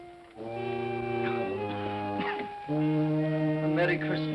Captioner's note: coughs